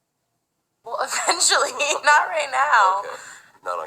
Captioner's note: laughs